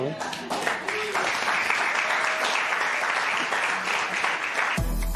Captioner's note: applause